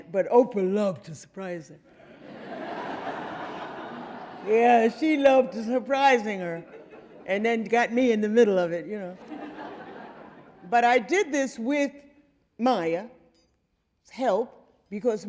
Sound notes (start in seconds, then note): 1.9 audience laughing; 9.2 audience laughing